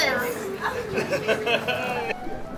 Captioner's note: laughter